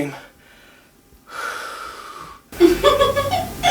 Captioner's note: exhales; Henrietta giggling